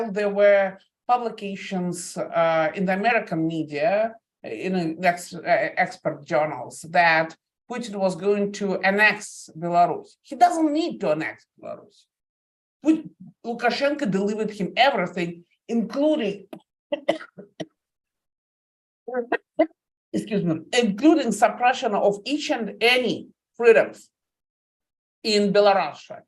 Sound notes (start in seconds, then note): 16.9 coughing